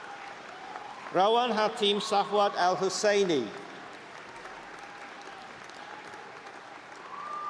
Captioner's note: applause